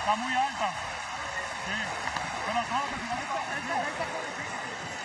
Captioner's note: eering and Applause